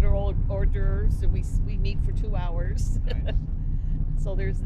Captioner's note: chuckles